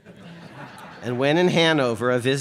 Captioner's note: audience laughs